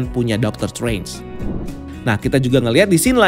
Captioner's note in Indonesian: suara transisi